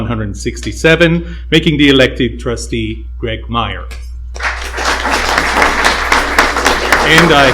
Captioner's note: applause